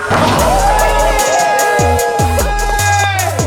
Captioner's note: cheering